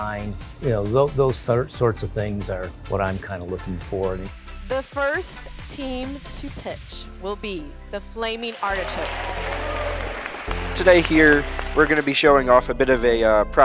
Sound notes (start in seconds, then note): 8.3 crowd applauding